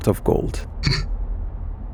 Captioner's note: Cinder snickers once